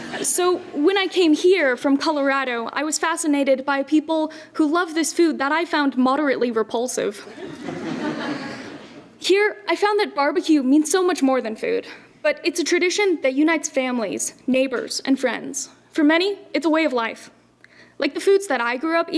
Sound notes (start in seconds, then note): 7.2 laughter